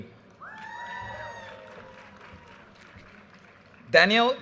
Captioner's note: audience cheers and applause